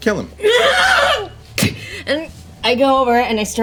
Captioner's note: screaming